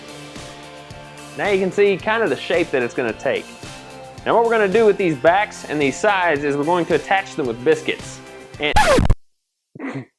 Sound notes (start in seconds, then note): 8.6 record scratch